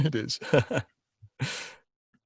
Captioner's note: laughs